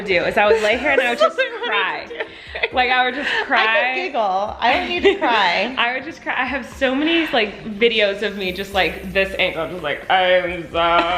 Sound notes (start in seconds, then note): 2.1 laughing